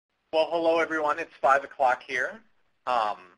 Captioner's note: voiceover